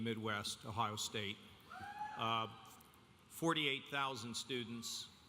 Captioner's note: audience cheering